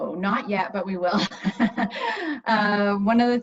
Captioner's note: laughs